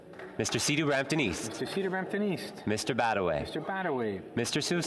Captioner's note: speaking French